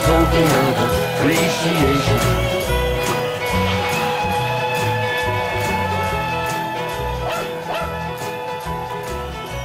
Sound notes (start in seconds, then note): 4.7 train whistle; 7.2 dog barking